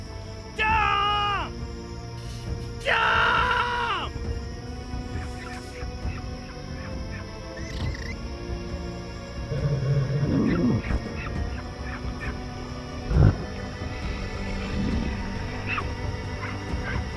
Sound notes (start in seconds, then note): 5.9 squeaks and chirrups; 9.6 growl; 13.9 grunting